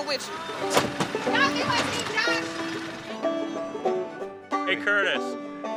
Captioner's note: upbeat music; woman yelling